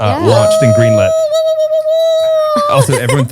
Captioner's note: cheers